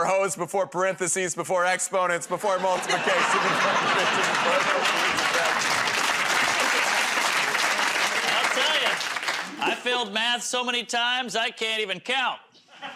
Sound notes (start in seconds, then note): 6.7 laughter and applause